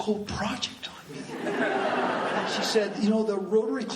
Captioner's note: laughing